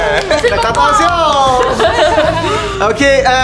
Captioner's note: cheers and applause; laughter